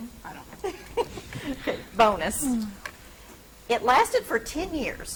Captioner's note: laughs